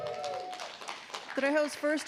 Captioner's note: audience applauding